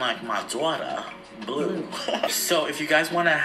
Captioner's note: laughs